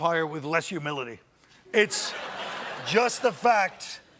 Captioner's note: laughter